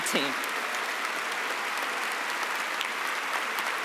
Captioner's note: cheering and applause